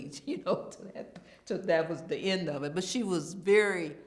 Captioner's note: laughs